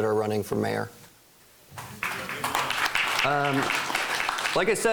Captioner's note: applause